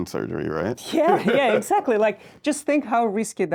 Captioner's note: laughs